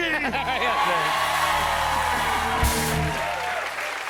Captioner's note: cheers and applause